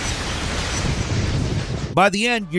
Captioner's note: thunder cracks